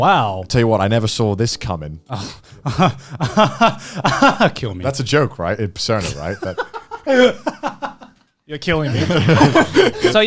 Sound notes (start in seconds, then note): 2.6 laughs; 6.5 laughs